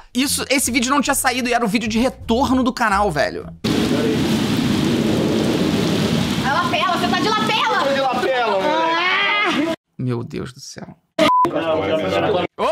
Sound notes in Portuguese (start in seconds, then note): 3.6 som de chuva; 11.2 som de bipe